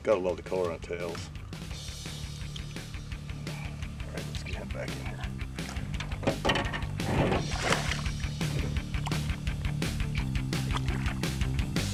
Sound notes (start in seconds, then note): 8.1 clattering; 10.5 fish splashing